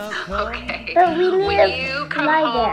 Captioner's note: laughs